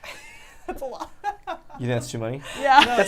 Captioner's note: laughs